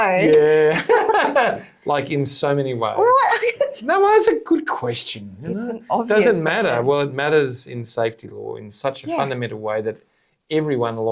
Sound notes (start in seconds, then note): 1.4 speakers chuckling